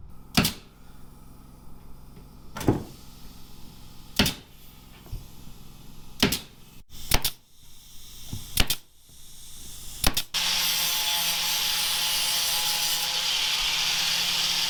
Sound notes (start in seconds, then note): 2.6 wood thudding; 10.3 saw whirring